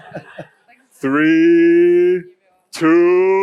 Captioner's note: śmiech/laugh